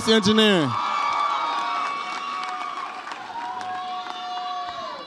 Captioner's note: audience applauds and cheers